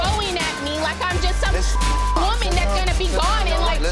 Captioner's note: beep